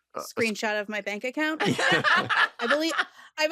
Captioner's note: laughter